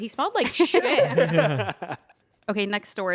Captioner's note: everyone laughs